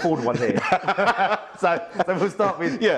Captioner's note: both laugh; laughs